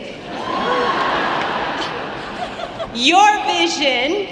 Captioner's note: audience laughing